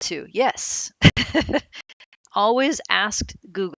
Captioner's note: laughs lightly